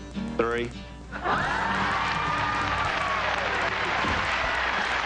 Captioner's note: audience cheering and clapping